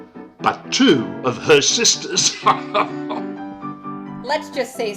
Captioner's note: laughs